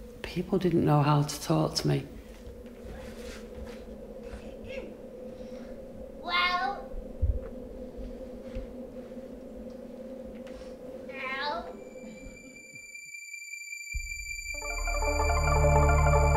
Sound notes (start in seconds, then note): 6.0 alien jibberish language